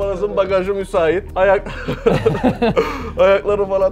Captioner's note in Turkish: Gülüşmeler